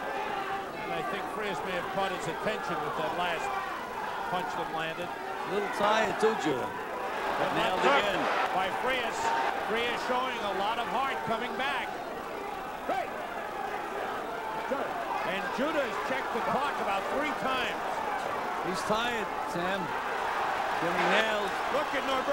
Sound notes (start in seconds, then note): 5.3 audience cheers and yells loudly; 20.1 audience cheers and yells loudly